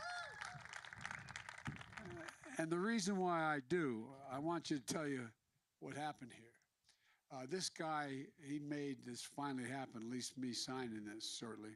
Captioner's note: applause